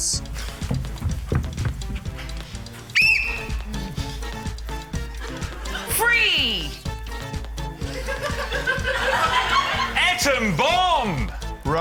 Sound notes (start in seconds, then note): 2.9 blows whistle; 7.8 laughter